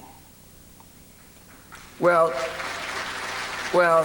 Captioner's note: applause